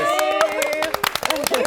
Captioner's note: clapping